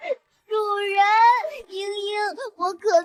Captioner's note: sobs